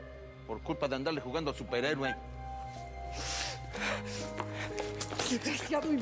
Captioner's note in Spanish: sollozos